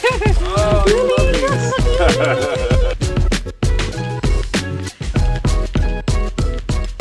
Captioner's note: laughter